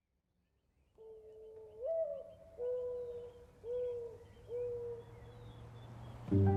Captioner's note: birds singing; light music